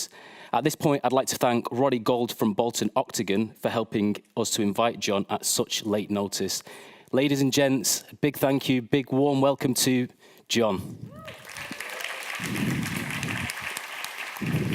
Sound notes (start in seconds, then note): 11.1 applause